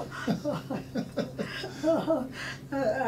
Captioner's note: laughs